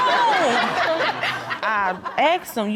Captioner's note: audience laughing